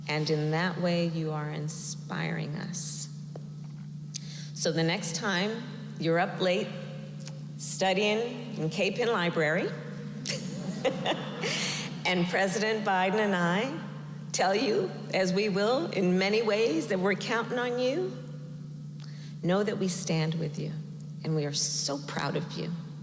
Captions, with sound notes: And in that way, you are inspiring us. So the next time you're up late studying in Capen Library -- (laughs) -- and President Biden and I tell you, as we will in many ways, that we're counting on you, know that we stand with you, and we are so proud of you